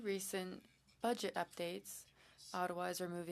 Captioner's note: speaking French